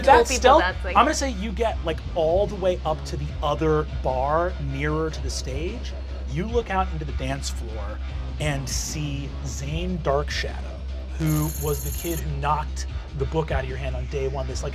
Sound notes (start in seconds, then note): none